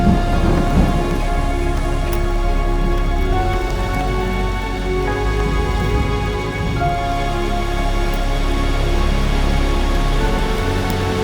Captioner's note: wind blowing